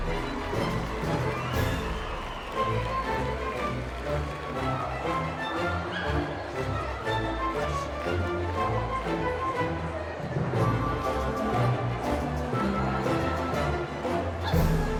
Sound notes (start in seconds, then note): 1.5 crowds cheering and clapping; 4.9 whimsical music continues